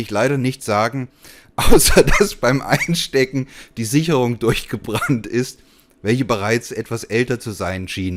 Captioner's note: chuckles